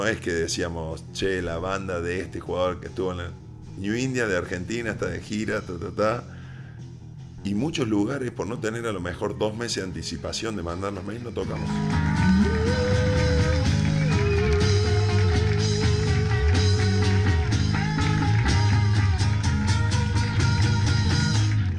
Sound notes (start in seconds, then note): 11.6 people cheering